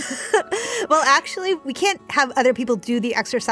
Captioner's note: laughter